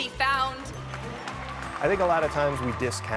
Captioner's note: audience applause